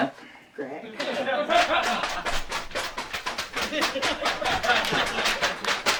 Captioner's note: laughter